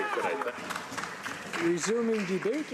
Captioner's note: speaking spanish